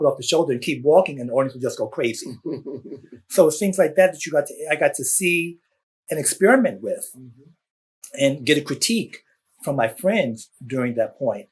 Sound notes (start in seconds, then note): 2.2 laughter